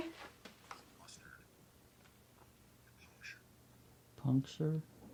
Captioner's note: male voice speaking